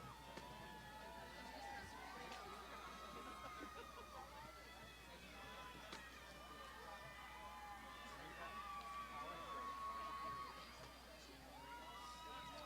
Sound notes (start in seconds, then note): 8.8 graduands shouting